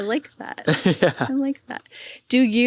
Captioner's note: laughs